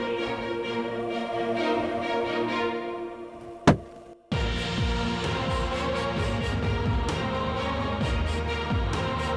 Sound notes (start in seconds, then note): 3.2 gun shot